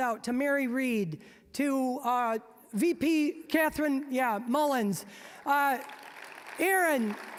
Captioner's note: applause